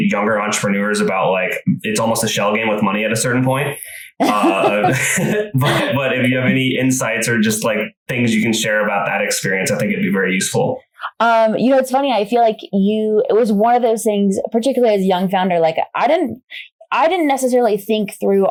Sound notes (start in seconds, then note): 4.2 laughs